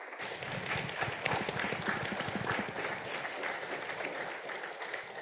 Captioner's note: audience applauding